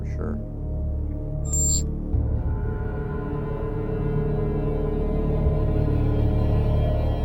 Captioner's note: ominous music; logo buzzing